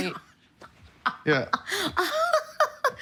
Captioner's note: laughing